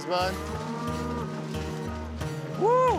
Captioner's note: mooing